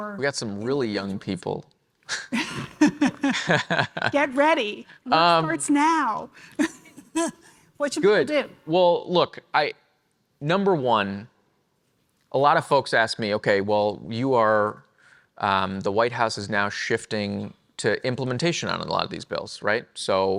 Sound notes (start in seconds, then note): 2.2 laughs; 6.9 chuckles